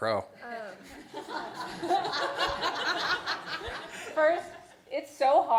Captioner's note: laughter